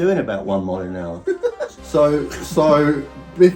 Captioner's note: laughing